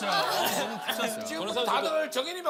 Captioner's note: laughing